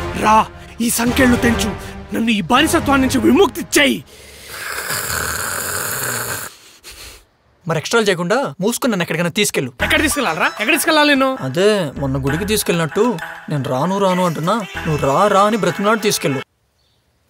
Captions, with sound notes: Come, break these chains. Free me from this slavery. (Grunts) Stop being melodramatic. Shut up and take me some place. Where should I take you? Where? You took me to the temple the other day. Take me to some other place today even if refuse to come.